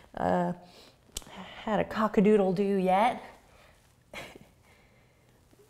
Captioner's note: laughs